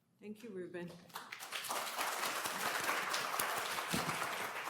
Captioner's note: applause